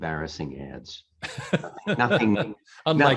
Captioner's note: laughing